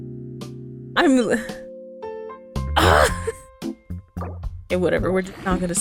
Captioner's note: sad sigh